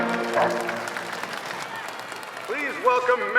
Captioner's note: audience cheering